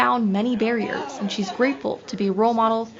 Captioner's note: laughs